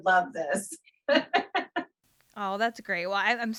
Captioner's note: laughs